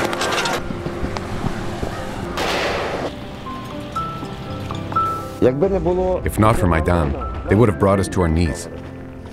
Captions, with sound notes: [Sniper Fire] If not for "Maidan", they would have brought us to our knees.